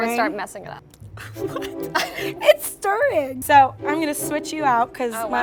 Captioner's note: laughs